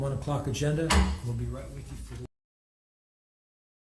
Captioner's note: gavel hits